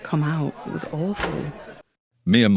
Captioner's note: door locks